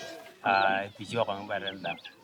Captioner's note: speaking in local language